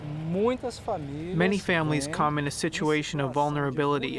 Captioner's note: through translator